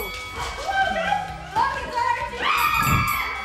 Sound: bell chime; screaming; bell chiming

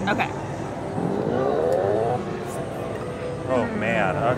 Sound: machine zips

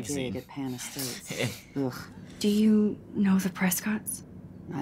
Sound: all chuckle

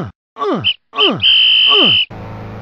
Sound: whistling sound

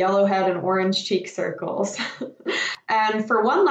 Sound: laughs

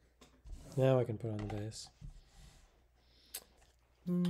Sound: hums

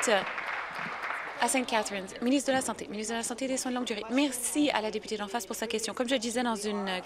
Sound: applause

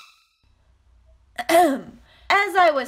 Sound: ahem

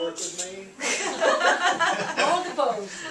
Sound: laughs

